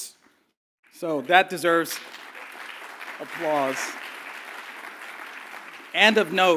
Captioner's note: applause